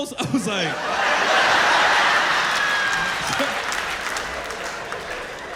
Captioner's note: laughter